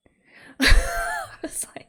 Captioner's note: laughs